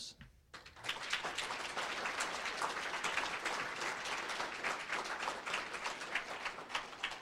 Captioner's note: applause